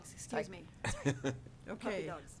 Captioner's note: laughter